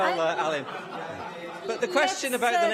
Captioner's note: laughter